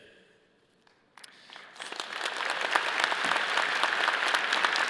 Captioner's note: all applauding